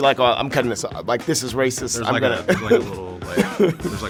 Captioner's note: laughing